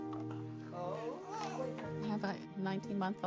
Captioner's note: baby Coos